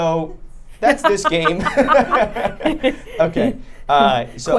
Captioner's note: group laughing